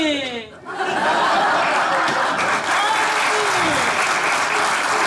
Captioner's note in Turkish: Kahkaha ve alkış sesleri